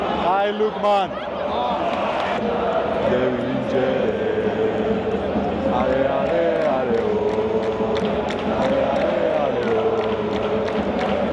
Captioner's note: chanting